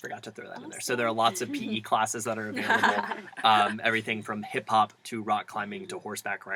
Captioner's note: laugh